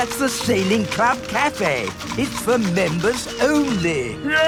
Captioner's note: none